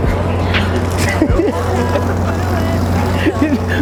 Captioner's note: laughter